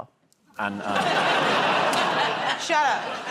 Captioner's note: laughter